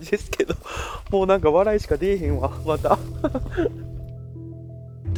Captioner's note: laughs